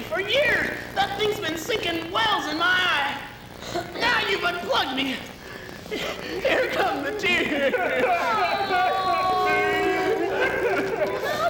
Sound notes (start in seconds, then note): 7.8 crying